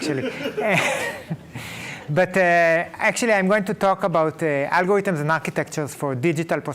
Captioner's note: laughing